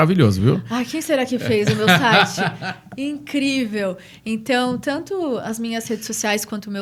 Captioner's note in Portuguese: risadas